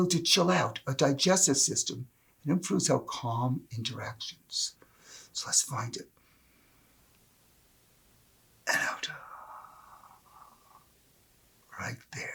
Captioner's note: inhales